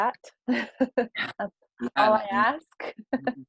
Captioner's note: laugh